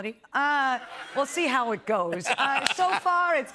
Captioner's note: laughter